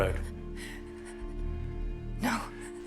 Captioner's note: breathes shakily